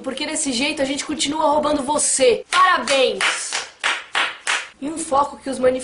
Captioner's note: claps